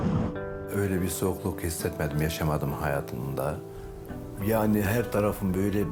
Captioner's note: pensive music; speaks in foreign language